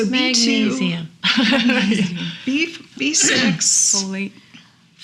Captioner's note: laughing